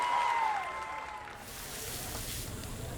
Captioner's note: sizzling